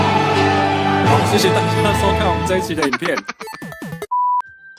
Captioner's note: laughs